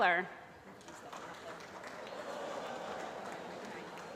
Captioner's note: applause